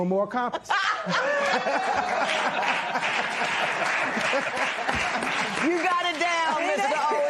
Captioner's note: laughter, applause